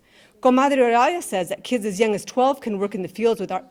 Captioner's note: speaking in Spanish